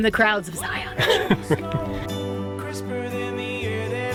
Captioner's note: laughing